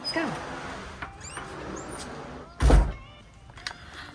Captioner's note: door slams shut